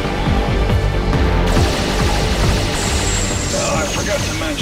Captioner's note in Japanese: 銃撃音